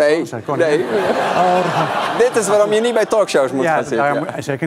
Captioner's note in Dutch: gelach